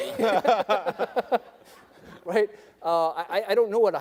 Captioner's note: debaters laugh